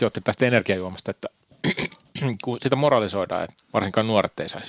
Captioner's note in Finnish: kröhöm